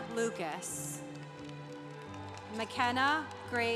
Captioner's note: congregation applauding